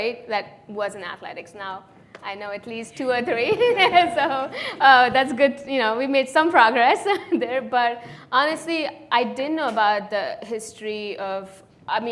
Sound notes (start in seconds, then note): 3.2 laughs